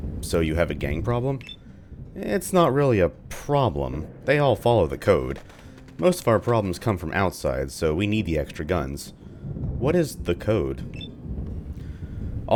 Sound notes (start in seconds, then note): 5.5 thunder; 9.3 thunder